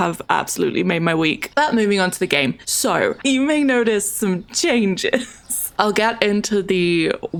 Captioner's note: laughs